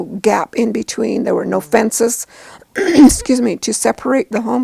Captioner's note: coughs